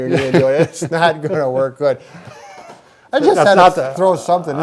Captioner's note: chuckles